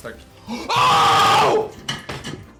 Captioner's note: screams